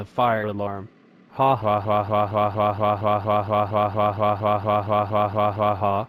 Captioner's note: laughing